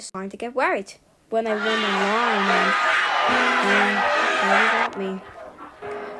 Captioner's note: narrating; crowd chanting; narrating